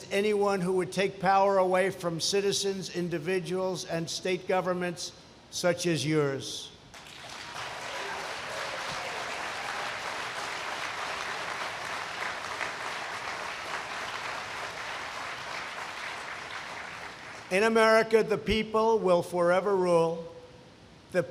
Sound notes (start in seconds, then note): 15.6 applause